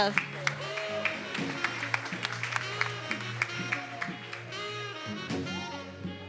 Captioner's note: attendees applauding and cheering